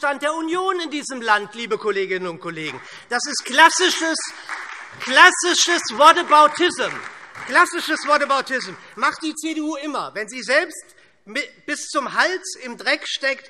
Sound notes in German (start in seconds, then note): 2.6 Beifall SPD und DIE LINKE